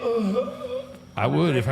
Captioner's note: Undertaker whimpering